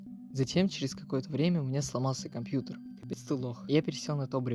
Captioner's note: voiceover ”you're a loser”